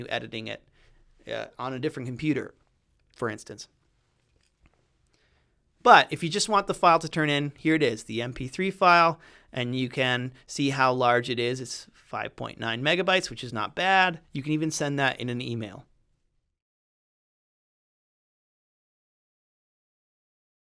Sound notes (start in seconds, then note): 17.7 end of audio